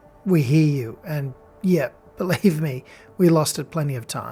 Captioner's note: chuckles